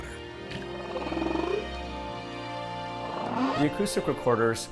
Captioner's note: whales calling